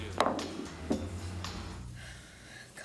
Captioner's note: glass thuds